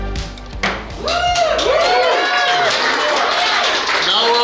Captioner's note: cheering & Clapping